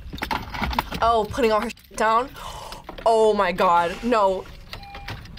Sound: gasps

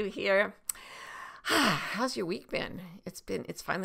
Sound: sighs

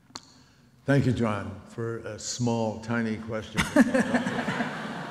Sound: audience laughs

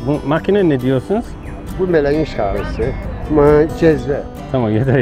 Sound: speaking Turkish

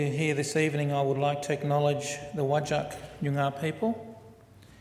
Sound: foreign word spoken

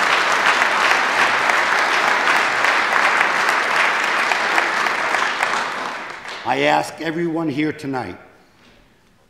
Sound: applause

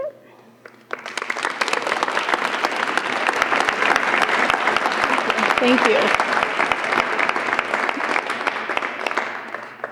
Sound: applause

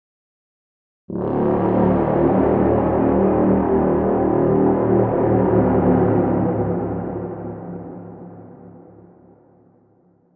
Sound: sound of horn

